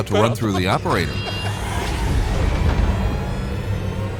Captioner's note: laughing